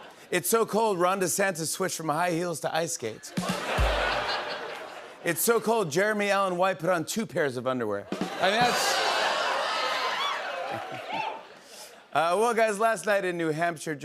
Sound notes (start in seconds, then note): 3.2 laughter; 8.1 laughter; 8.2 cheering